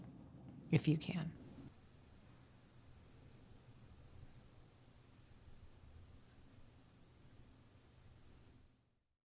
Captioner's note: silence